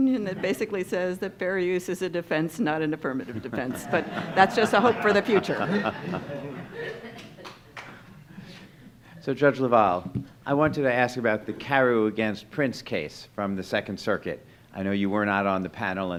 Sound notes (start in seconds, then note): 3.3 audience laughing